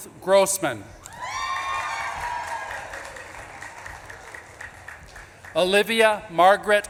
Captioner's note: audience claps and cheers